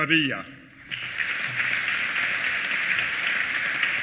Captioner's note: applause